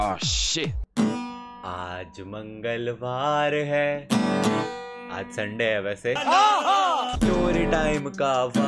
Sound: acting to laugh as if it is funny

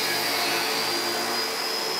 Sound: machine noise

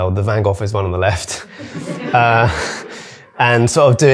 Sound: audience laughing

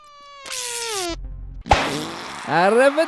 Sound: pop

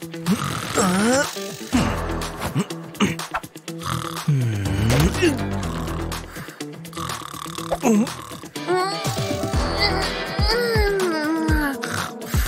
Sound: snoring

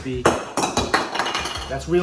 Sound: lid clattering

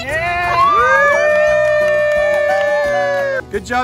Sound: family cheering

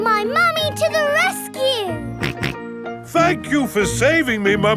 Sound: snorting

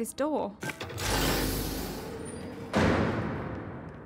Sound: door opens

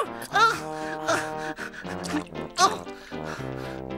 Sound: heavy breathing

